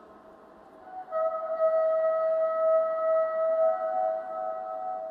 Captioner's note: horns continue